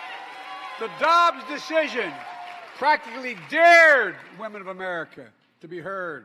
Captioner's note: applause